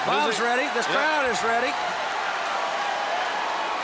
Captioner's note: crowd chatter